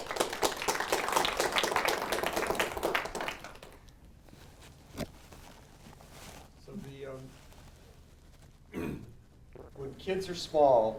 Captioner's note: applause